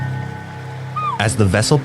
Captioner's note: boat, harbour, port sounds